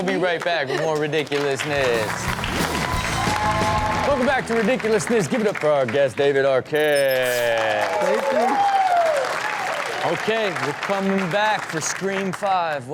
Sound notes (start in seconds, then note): 1.6 audience cheers; 7.5 audience cheers